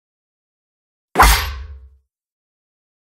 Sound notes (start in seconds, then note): 1.1 sound of sword strike